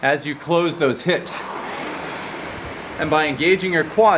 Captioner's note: rowing machine whirring